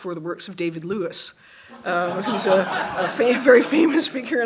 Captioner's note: laughter